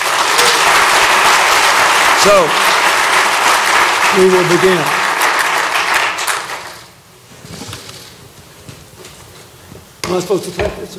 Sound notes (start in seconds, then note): 0.0 applause